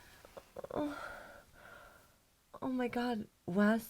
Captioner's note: Julie groans